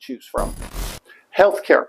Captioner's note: static